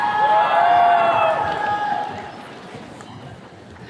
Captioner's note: attendees cheering